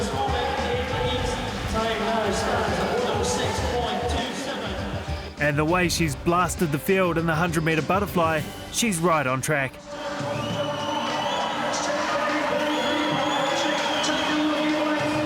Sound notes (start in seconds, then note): 11.8 MC on loudspeaker; 14.0 cheering